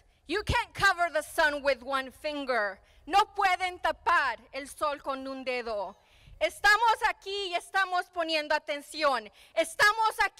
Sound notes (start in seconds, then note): 3.0 speaking in foreign language